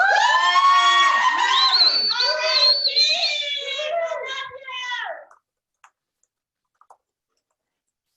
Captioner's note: cheering